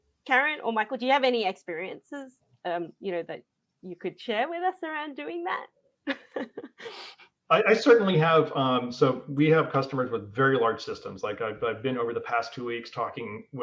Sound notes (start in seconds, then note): 6.1 laughs